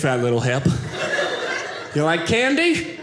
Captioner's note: audience laughing